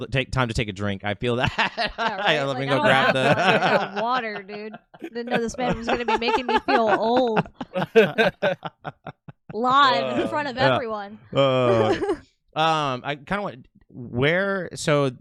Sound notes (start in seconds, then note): 2.3 laughs; 7.8 laughs